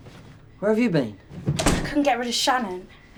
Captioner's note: door slams